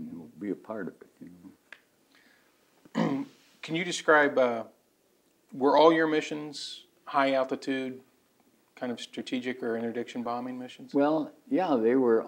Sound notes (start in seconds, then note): 2.9 clears throat